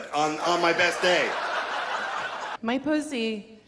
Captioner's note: audience laughs